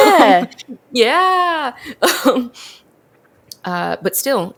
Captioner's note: laughs